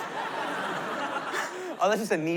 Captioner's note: laughter